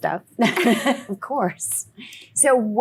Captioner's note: laughs